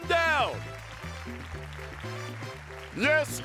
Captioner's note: applause